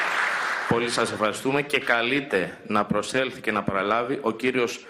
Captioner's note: applause